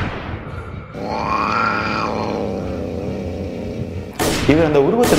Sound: monster hisses

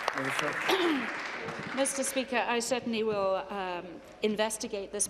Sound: applause

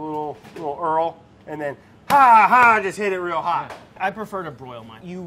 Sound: slaps

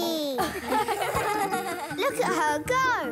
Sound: laughing

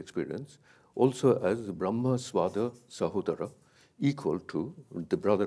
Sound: speaks in a foreign language

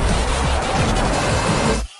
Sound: porsche drifting

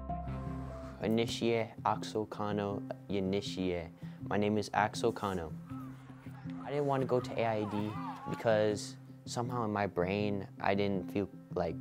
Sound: speaking Dene

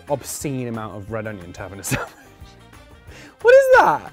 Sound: laughs

